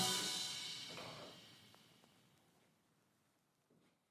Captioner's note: balls clacking